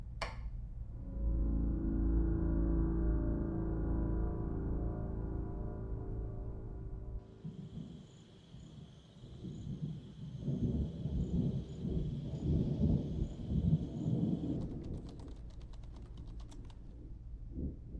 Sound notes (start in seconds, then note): 0.2 switch clicks; 1.0 gentle, foreboding music; 7.2 crickets chirping; 7.2 thunder rumbling; 14.8 keyboard clicking